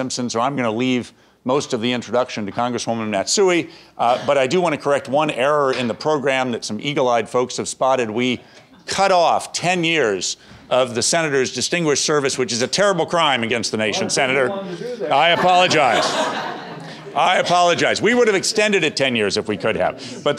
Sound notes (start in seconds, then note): 14.4 speaking from off mic; 14.8 laughter